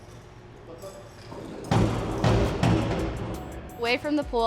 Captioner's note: banging